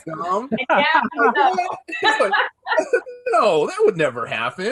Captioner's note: panelists laughs